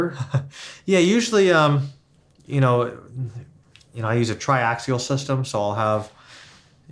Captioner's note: laughs